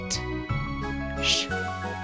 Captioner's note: making "sh" sound